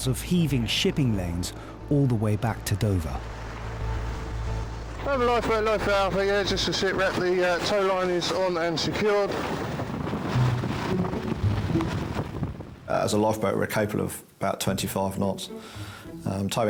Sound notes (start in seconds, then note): 3.5 water splashing; 9.6 water splashing; 9.6 wind swooshing; 10.5 uplifting instrumental music